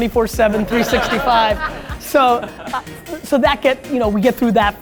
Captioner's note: laughter